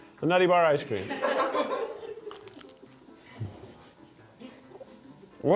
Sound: crew laughing

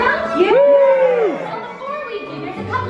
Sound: cheering

